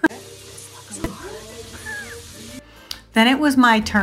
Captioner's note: laughs